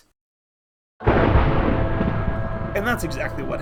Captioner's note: ominous music; thunder